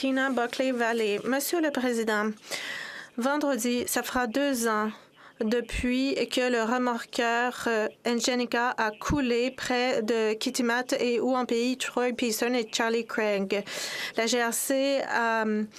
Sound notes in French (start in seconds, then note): 2.3 voix de l'interprète